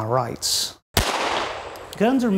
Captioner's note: gun firing